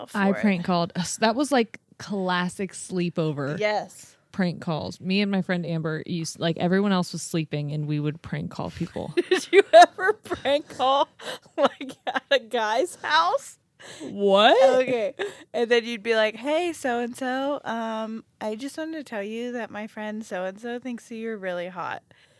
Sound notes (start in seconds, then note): 9.2 laughing